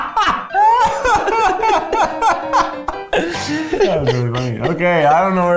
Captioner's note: laughs